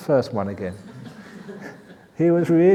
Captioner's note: laughs